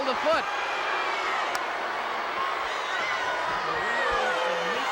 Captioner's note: audience shouting